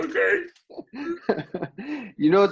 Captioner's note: laughs